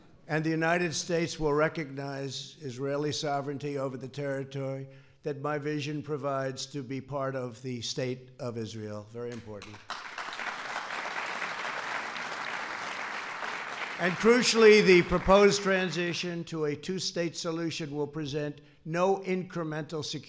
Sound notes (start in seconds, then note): 9.3 applause